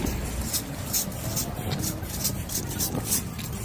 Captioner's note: raking sounds